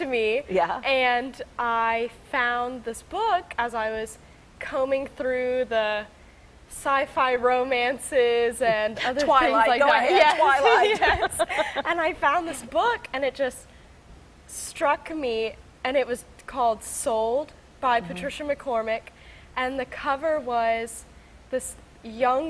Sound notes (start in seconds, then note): 10.5 both laughing